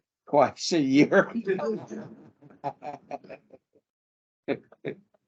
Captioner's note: audience and panel laughter